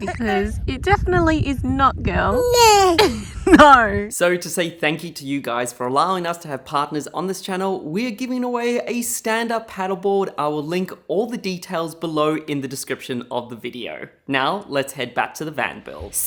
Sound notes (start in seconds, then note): 2.3 baby mumbles; 2.3 baby mumbling; 2.4 laughing